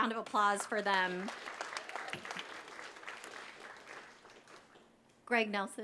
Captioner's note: applause